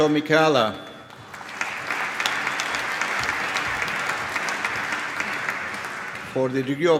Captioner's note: applause